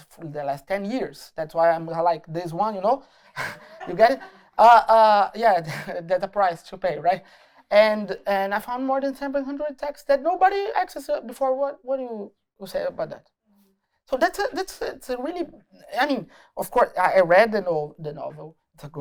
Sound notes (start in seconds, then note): 3.3 laughter